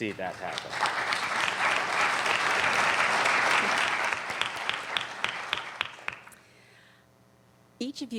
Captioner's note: applauding